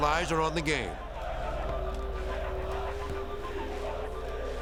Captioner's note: crowd cheering